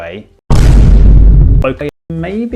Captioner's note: Vine boom bass boosted